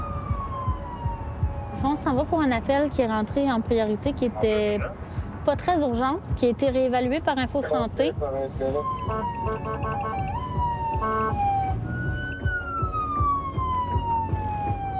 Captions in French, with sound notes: - On s'en va pour un appel qui est rentré en priorité qui était pas très urgent, qui a été réévalué par Info-Santé. (sirènes)